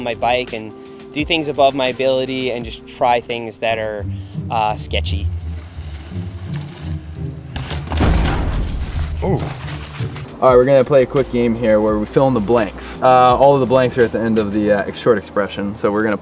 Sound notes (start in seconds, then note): 7.9 explosion